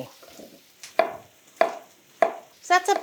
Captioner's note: knife chopping